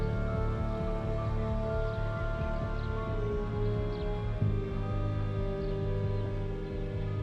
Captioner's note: deep haunting music; birds chirp